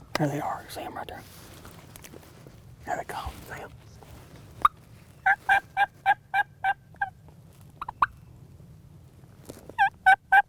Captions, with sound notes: There they are. See them right there? Here they come. See 'em? (turkey call)